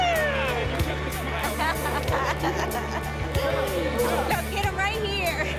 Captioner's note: laughs